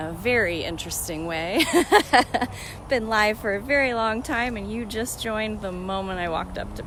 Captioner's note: laughing